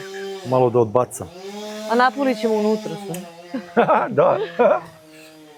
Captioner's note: laughter